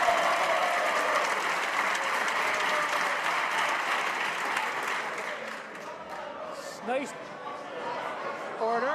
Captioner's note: applause